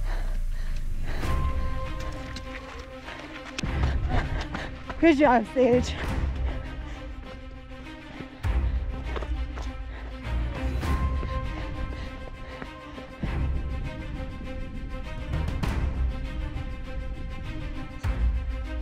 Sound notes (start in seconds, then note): 0.3 panting; 0.3 upbeat music; 6.2 panting; 6.2 upbeat music